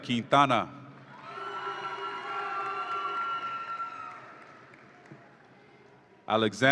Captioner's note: audience applauds and cheers